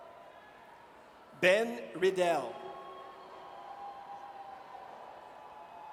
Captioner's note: audience cheers